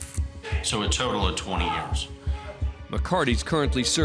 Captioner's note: shouting, cursing